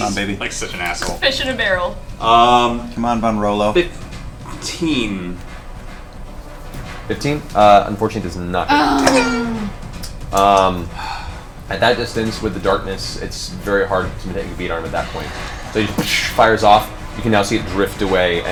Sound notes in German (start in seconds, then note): 9.0 Querschläger-Geräusche; 15.8 Gewehrschuss